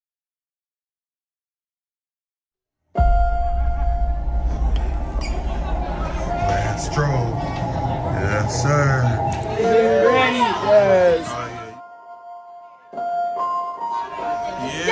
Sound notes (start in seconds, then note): 9.1 piano playing; 10.5 all chattering